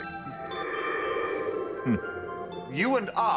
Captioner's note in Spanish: viento silbando